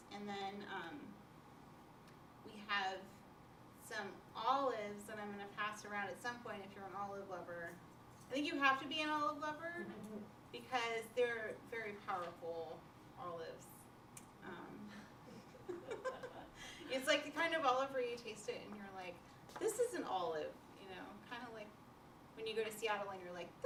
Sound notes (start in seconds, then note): 15.3 laughter